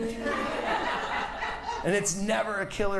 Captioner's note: audience laughs